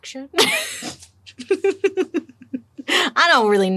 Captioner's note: laughing